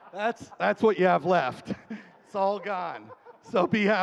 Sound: laughing

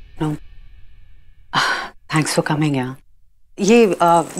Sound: Ananya sighs

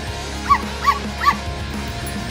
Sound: bark, bark, bark!

